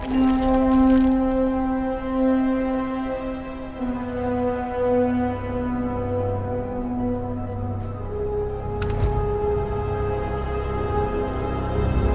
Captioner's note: rock crumbling